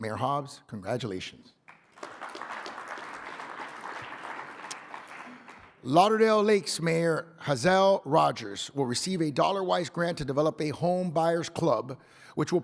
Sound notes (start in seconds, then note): 1.6 audience applauding